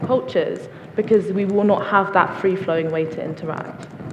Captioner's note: audience applauds